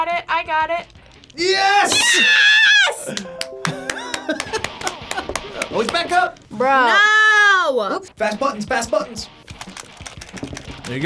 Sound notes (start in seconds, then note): 3.0 claps